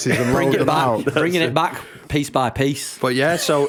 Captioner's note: laughter